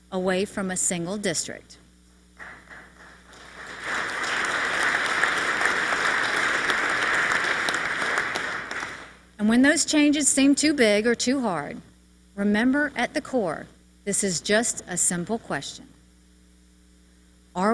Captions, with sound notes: AWAY FROM OUR A SINGLE DISTRICT. [ APPLAUSE ] AND WHEN THOSE CHANGES SEEM TO BIG OR TOO HARD, REMEMBER AT THE CORE, THIS IS JUST A SIMPLE QUESTION.